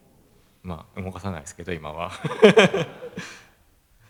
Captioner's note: laugh